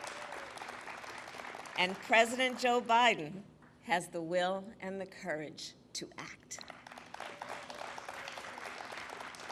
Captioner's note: applause